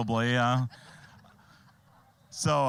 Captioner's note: all laughing